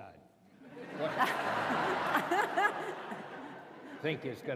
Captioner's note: laughter